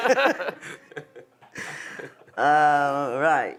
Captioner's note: audience laughs